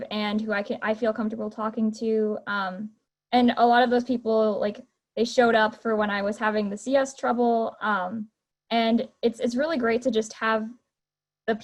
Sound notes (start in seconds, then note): none